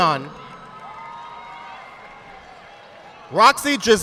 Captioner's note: audience clapping